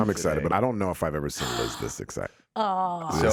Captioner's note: gasps